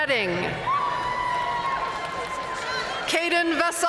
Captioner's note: audience cheering and applauding